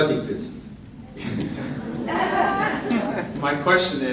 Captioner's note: audience giggles